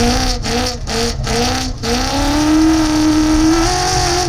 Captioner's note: engine revving